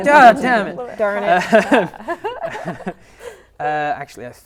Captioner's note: laughing